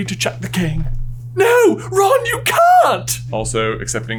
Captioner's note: Hermione voice